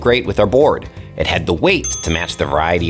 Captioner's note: bell ringing